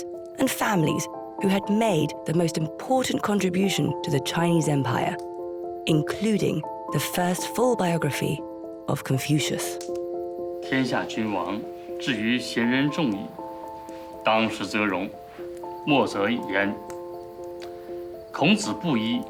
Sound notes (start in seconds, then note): 11.0 idioma extranjero